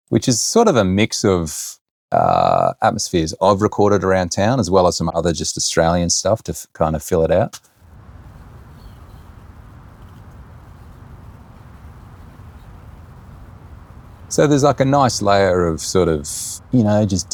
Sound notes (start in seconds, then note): 7.9 traffic lightly whirring; 8.0 birds chirping